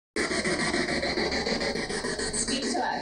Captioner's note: ghost box sound